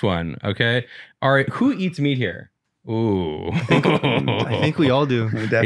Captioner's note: laughs